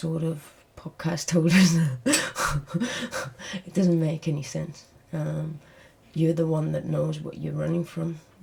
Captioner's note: laughs